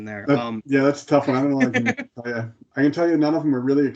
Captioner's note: murmurs